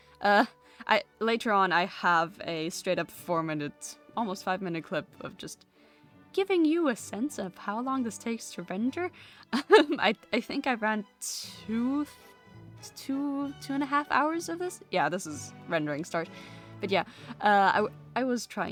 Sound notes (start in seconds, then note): 9.6 laughs